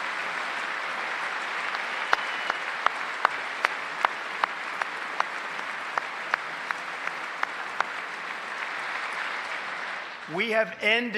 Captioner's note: applause